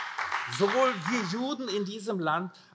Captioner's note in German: Beifall AfD